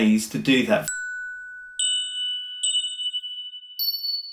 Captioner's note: dinging